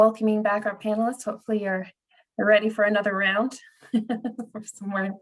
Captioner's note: laughs